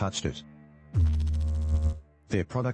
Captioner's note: electrical noise